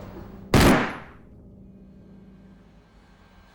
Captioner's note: gun firing